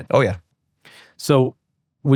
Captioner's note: none